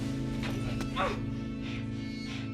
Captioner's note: Joe moans